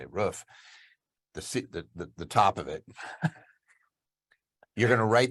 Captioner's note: laughs